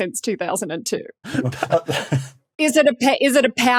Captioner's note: cracks up